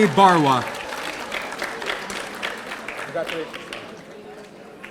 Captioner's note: audience applauding